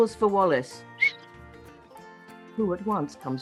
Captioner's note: whistles